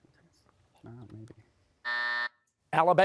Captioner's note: buzzer